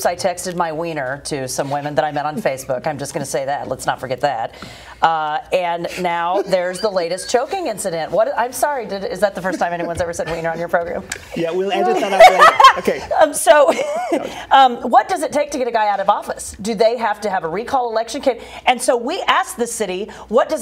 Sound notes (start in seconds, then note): 11.8 laughter